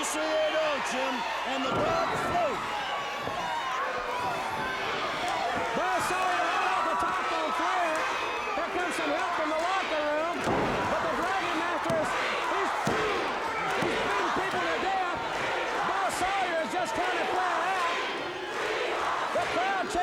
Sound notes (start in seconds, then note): 2.2 commentators exclaim